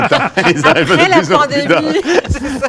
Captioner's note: laughs